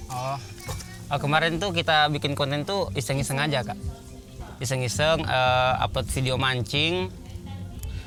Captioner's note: Speaking in Bahasa